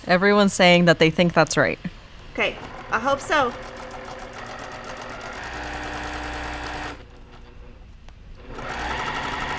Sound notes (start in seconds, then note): 3.7 machine whirring